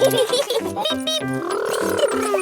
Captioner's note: both laughing